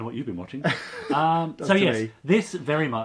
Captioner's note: laughs